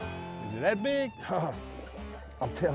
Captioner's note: water splashing